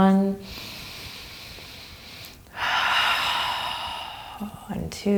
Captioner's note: breathing deeply